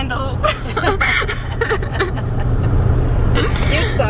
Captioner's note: laugh